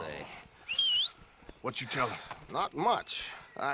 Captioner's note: whistles